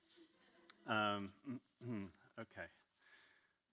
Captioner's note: audience laughing